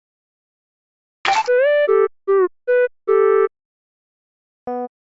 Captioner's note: sound of splashing water